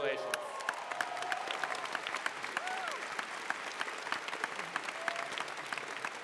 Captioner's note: applause